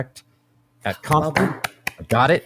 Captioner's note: clapping